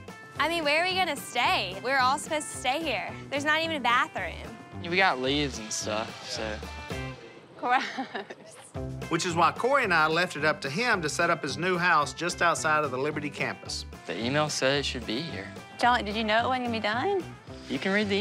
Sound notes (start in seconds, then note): 7.6 laughing